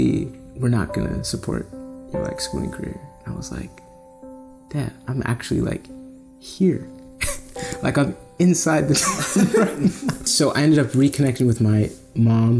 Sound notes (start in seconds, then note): 7.2 laughs; 9.0 everyone Laughs